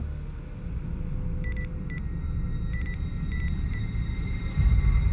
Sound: beeping

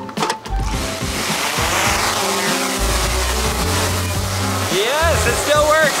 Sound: cheerful music; drone whirling

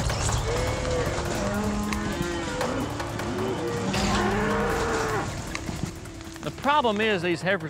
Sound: mooing

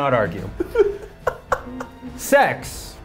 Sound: laughs

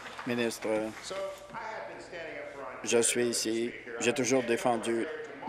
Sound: applause

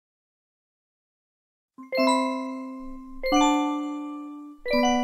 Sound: none

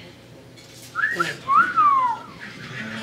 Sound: sexual attraction whistle

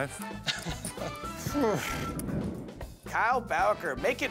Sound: laughter

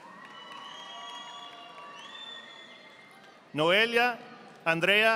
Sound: audience applauding

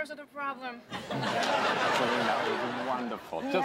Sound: laughter

